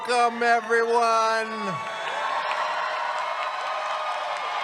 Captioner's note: cheers